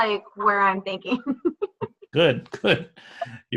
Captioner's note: laughs